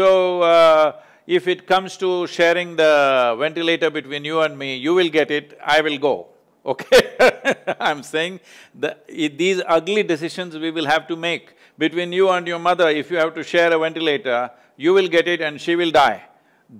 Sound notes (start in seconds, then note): 6.8 laughs